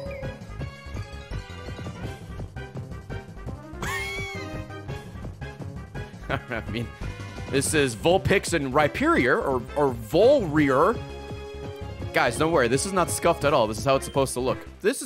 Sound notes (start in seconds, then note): 3.9 laughs